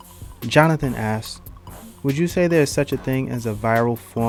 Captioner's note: voiceover